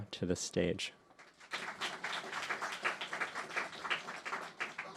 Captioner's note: audience clapping